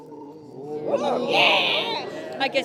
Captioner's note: gasping